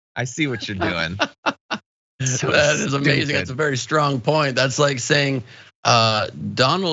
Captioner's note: laugh